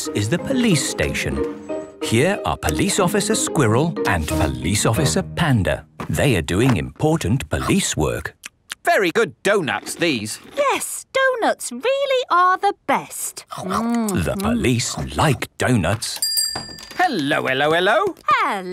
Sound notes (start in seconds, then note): 8.4 munching; 16.2 bell rings